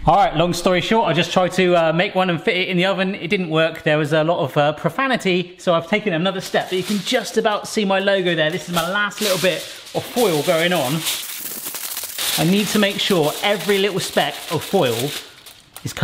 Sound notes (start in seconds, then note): 11.0 aluminium foil crackling